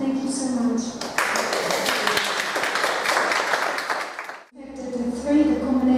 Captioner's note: applause